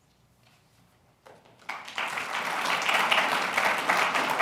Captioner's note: applause